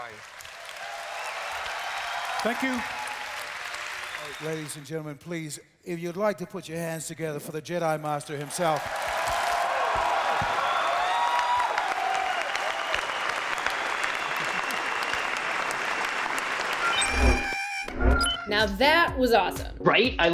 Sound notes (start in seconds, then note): 0.0 cheering and applause; 9.3 cheering and applause; 16.7 beeping, whirring